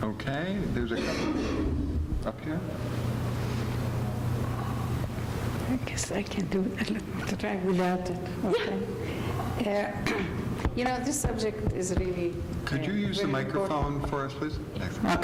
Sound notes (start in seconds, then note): 5.7 indistinct background chatter